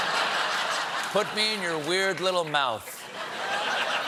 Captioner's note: laughter